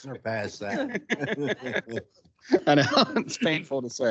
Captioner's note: council laughing